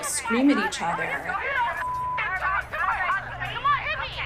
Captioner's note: soundbite of archived recording